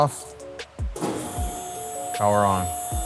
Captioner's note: machine whirring